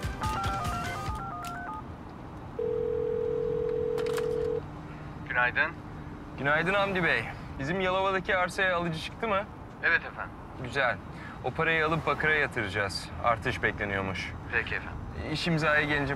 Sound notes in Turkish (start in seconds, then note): 0.1 Telefon arama sesi; 2.5 Telefon zili sesi